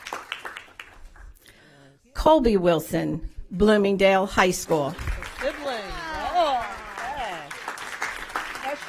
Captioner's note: applause